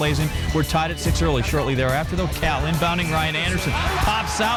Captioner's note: bell